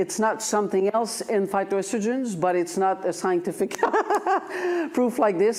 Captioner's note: laughs